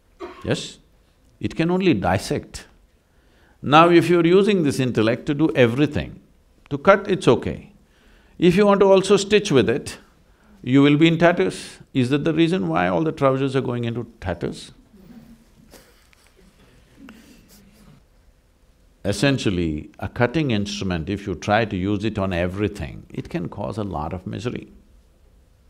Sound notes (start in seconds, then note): 18.0 laughs